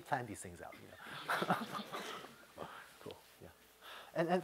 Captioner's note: laughter